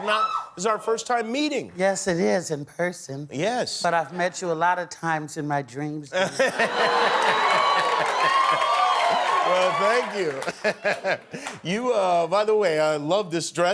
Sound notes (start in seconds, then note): 6.5 cheering